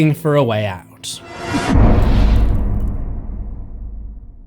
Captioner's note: impact